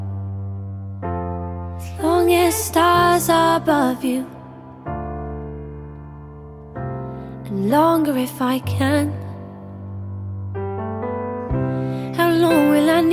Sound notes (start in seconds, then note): none